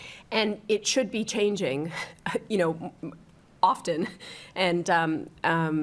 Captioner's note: laughs